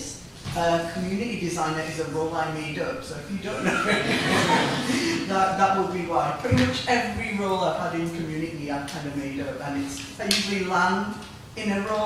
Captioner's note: laughter